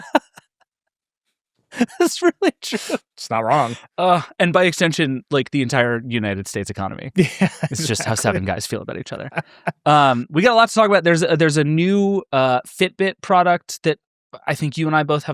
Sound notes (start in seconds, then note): 0.0 laughs; 7.1 laughs